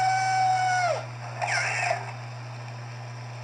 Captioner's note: Luxo Jr. Screaming